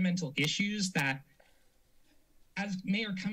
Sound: silence

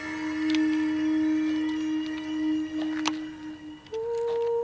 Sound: bones cracking

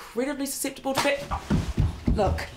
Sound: slap; feet stomping

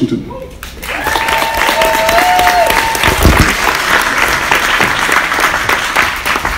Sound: audience applauds; audience cheers

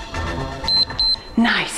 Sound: timer beeps

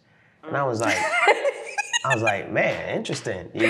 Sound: laughing

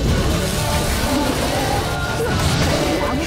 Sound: flames crackle

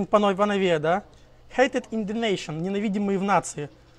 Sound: then same but in Russian

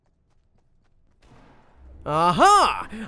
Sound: guns shooting

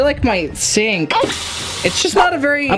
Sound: water pouring from tap

